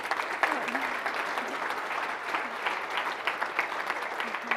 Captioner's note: audience applauding